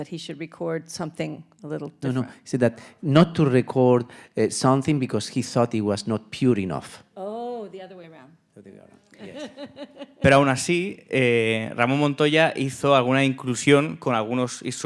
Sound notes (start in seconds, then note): 9.2 laughing; 10.7 speaking in Spanish